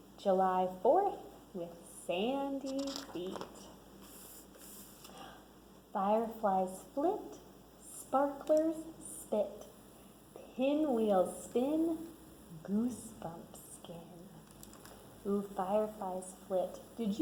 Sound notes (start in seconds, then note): none